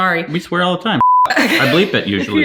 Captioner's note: beep